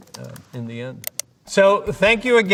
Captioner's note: mouse clicking